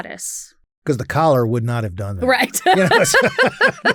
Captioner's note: laughs